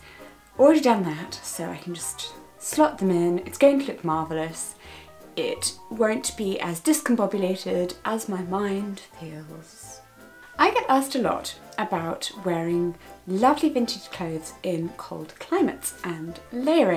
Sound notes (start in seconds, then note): none